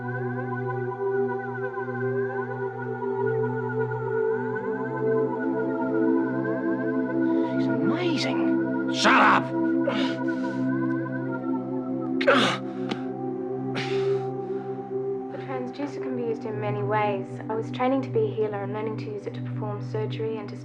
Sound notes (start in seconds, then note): 13.7 groans